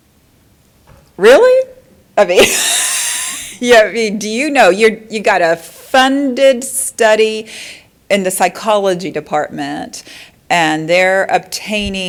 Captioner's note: laughter